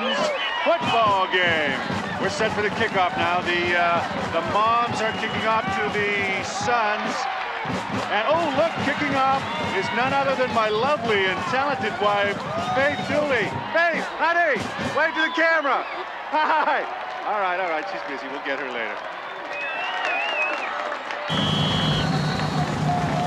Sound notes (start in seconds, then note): 19.5 suspenseful music; 19.6 whistle shrills